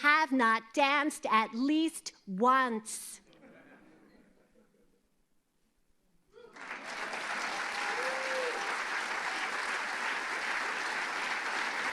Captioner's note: applause